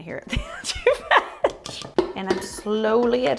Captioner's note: muffled laughs